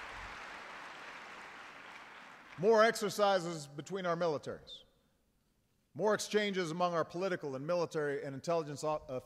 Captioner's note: applause